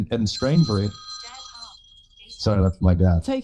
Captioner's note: phone rings